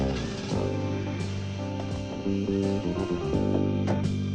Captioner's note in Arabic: هدير المحرك